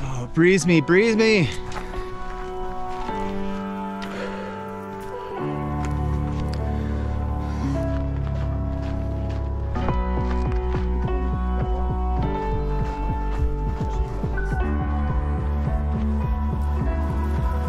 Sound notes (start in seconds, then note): 12.6 runners chattering